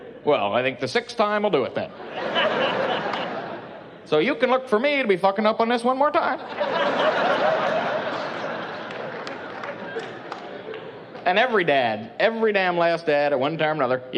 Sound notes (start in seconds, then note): 2.0 laughing; 6.4 laughing